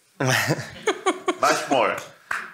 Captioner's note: all laugh